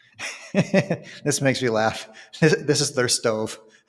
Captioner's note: laughs